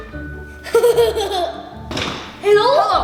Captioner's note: laughter